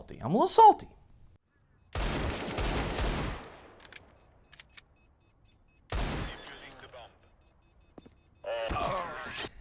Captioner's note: in games sounds